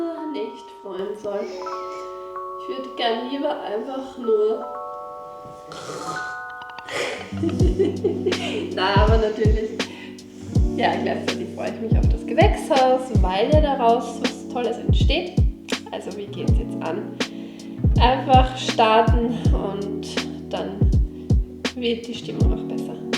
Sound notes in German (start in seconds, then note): 6.8 gelächter; 7.7 schnauben; 9.8 singen